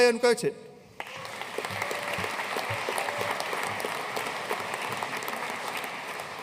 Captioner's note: audience cheering and applauding